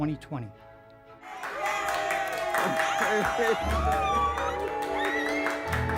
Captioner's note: clapping and cheering